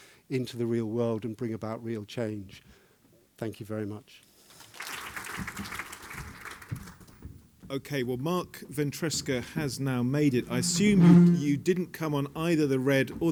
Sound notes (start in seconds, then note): 4.4 applause